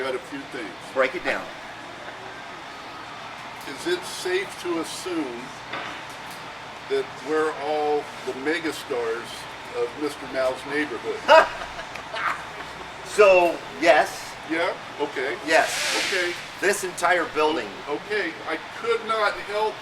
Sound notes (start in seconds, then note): 11.2 laughing